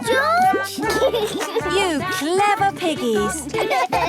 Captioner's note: laughs